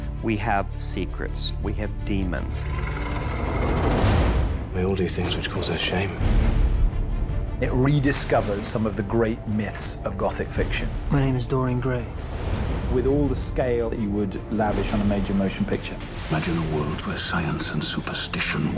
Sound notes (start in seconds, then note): 2.4 growl